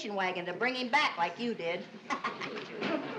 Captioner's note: laughs